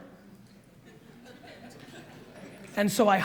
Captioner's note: audience laughs